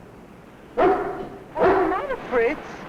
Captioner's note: dog barking